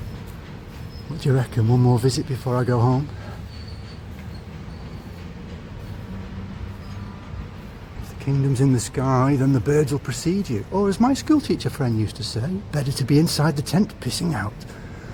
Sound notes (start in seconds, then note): 4.8 train passing